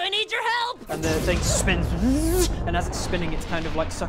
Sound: wrrrszzsch

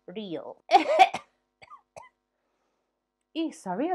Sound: coughing

